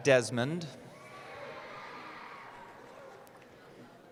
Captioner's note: cheering